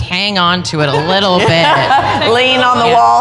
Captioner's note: laughter